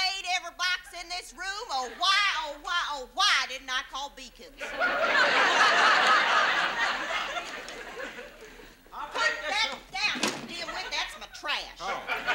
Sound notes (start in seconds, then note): 4.6 audience laughs